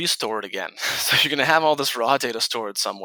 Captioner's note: chuckles